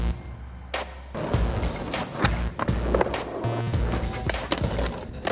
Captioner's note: skateboard clattering